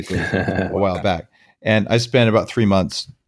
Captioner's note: light laughs